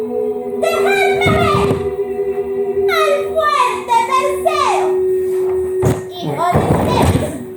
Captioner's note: thump sound